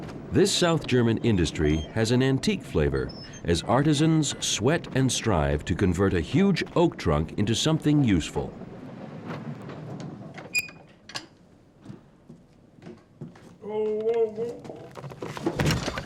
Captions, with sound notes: This south German industry has an antique flavor, as artisans sweat and strive to convert a huge oak trunk into something useful. [men grunting]